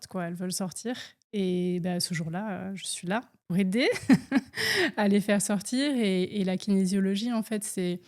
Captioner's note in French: rires